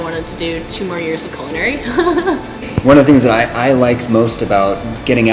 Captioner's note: laughs